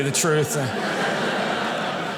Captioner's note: audience laughing